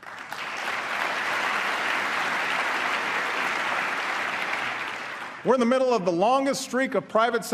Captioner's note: applause